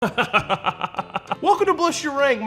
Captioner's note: dramatic laugh